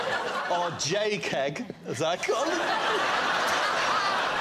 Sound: laughter

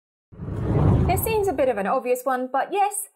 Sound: scene whooshes

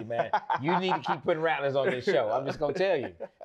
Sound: laughs

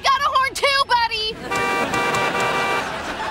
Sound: horn blowing

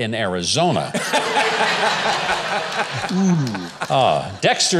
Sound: crowd laughing

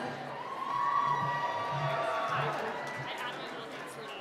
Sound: cheering

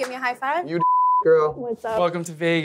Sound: beep

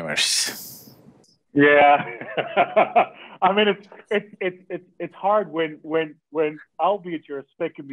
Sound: laughs

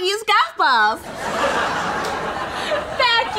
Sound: laugh track

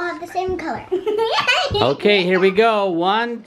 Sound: laughs

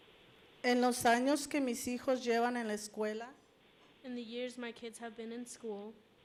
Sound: Spanish language

